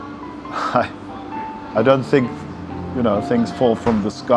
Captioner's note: chuckles